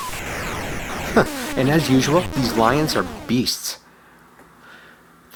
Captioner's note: chuckles